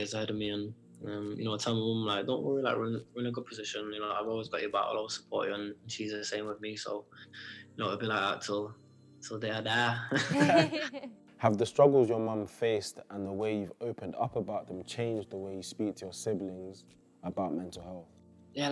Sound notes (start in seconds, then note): 10.0 laughs